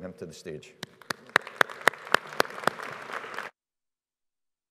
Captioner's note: audience applauding